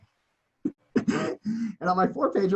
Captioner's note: laughs